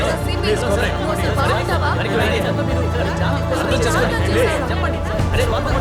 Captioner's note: crowd clamouring